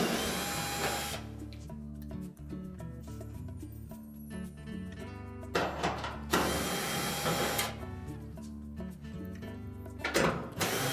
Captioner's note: drilling sound